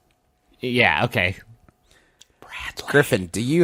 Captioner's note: whispers